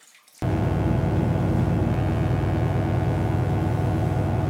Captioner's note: electric buzzing